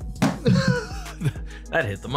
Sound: mellow ambient music; host laughing

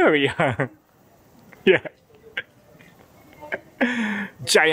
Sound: chuckle

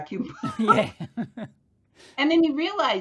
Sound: laughter

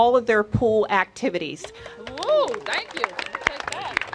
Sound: cheers and applause

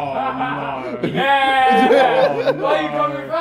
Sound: cameraman cheering

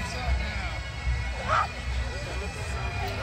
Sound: background chatter; grunting; background chatter

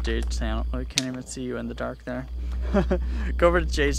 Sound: laughs

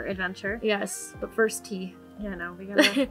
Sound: laughs

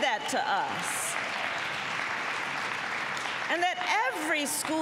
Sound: applause

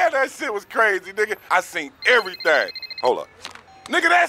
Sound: phone rings

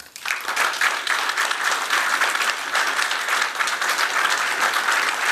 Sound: applause

